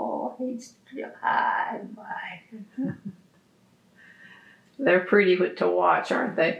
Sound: laughter

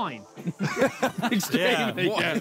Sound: all laughing

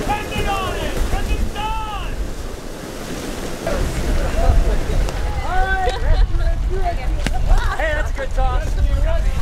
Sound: rustling of suits and tarp as folks scramble to get in suit

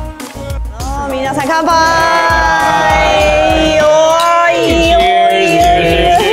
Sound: cheers in Japanese

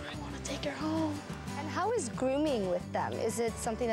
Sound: whispering

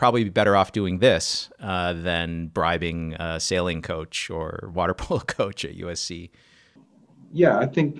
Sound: laughs

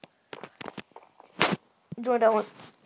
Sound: smash

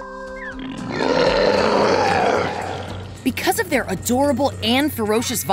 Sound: roar

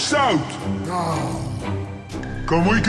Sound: exasperated groan

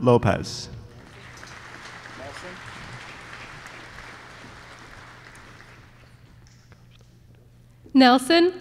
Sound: applause

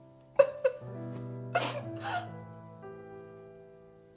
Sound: cries

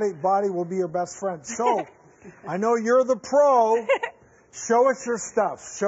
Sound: laughs

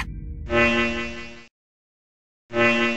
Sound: red light glows as a pulse is heard

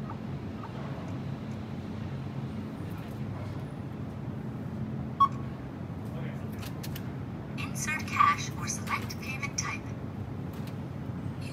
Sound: self checkout machine giving commands

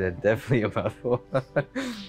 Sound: laughs

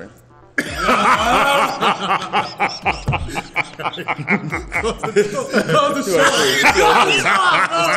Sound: laugh

